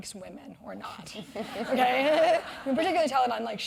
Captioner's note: laugh